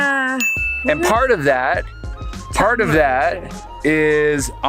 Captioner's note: bell chimes